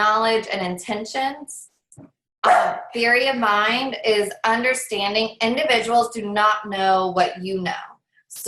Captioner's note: dog barks